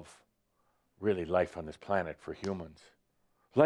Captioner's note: none